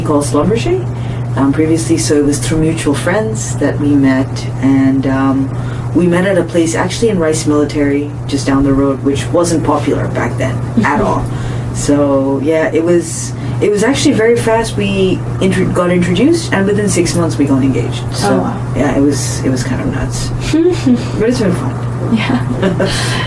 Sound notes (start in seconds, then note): 20.5 laughs